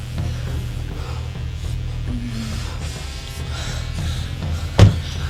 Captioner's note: sexual panting; car door closing